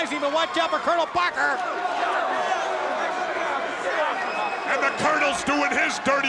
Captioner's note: applause